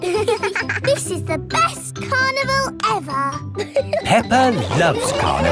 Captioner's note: both giggling